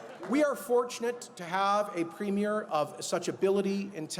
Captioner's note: applause